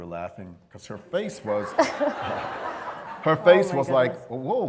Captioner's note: laughter